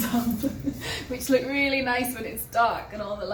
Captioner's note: chuckles